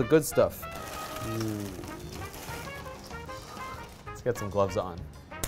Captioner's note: toffee rattling